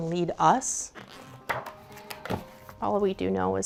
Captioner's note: pages flipping